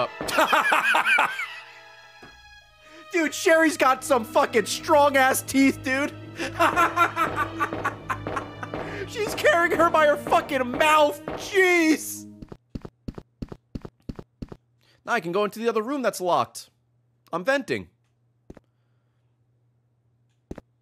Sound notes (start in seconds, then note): 0.2 laughs